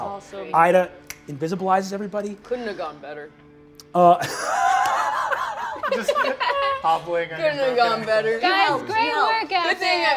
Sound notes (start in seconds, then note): 4.0 laughs